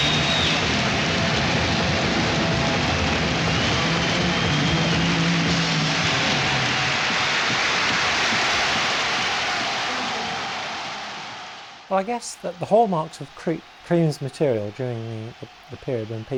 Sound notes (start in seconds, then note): 0.0 crowd cheering; 3.0 band playing; 7.0 crowd cheering